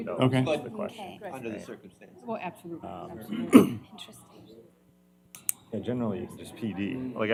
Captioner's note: indistinct chatter